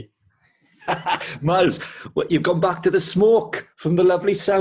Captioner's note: laughs